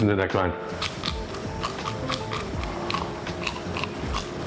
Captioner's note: food crunching